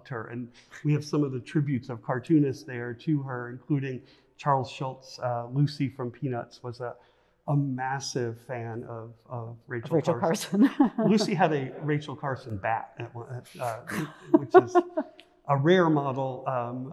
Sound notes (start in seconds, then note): 11.0 laughs